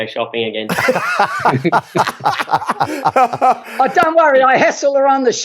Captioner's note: all laugh